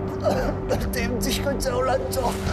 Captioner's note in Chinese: 咳嗽聲